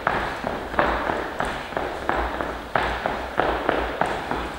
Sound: feet tapping

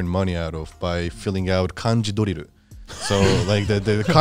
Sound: speaks in foreign language

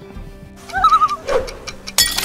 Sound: loon call

